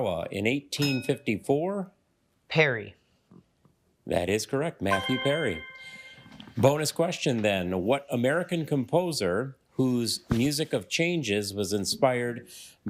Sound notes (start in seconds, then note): 4.9 triumphant chime